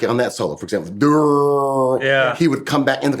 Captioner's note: groans